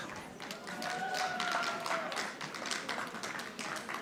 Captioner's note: audience applauding